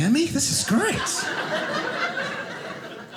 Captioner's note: audience laughing